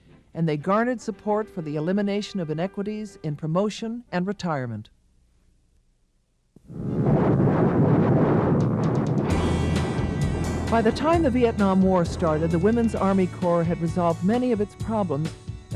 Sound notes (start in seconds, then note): 7.1 gunshots booming